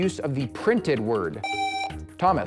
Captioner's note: buzzer